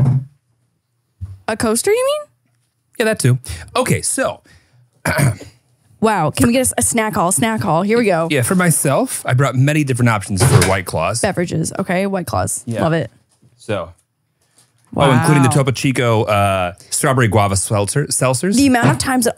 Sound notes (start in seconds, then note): 15.0 laughs